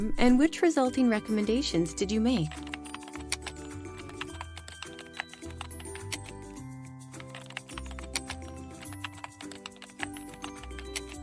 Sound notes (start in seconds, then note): 2.8 gentle music; 2.8 keyboard typing